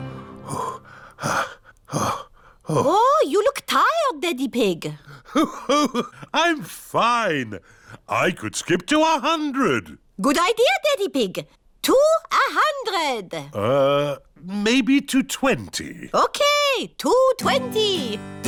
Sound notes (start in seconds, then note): 5.2 laughs